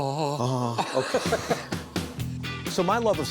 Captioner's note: laughter